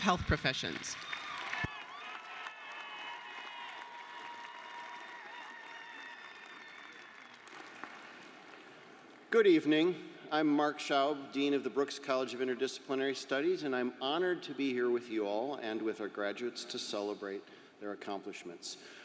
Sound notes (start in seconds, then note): 4.1 applause